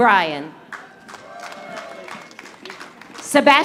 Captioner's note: audience applauding